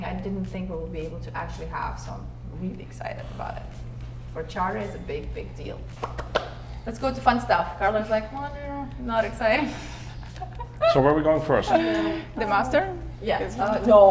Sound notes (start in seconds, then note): 5.9 hands clapping; 10.0 laughing